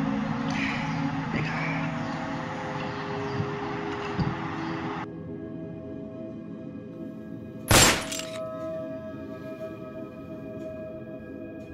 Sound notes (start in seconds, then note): 7.7 gunfire